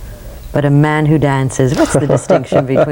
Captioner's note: laughs